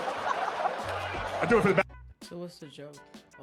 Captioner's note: audience laughing